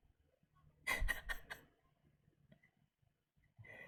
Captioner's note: laughs